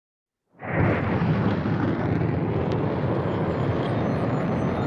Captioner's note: rocket firing